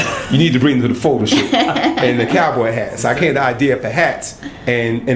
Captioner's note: laughter